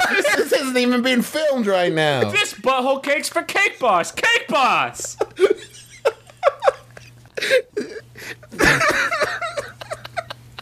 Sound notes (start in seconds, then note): 4.6 laughter; 9.6 cry laughing